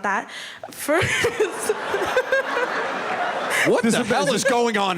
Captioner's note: laughter